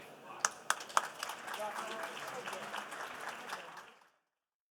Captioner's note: participants applauding